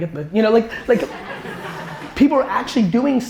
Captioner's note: audience laughter